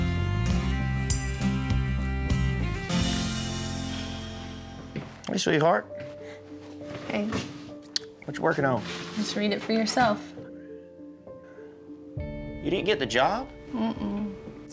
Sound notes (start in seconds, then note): 3.7 sighs; 6.6 smooch